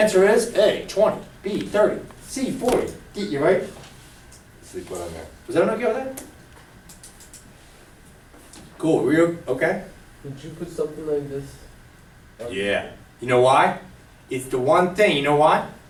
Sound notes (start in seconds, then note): 11.0 voiceover